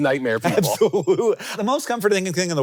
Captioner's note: laughs